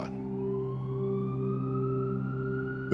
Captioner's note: sirens